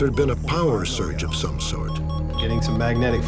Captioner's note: fast beeping